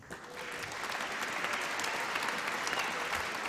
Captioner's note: applause